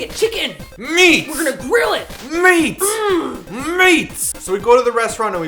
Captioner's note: caveman sounds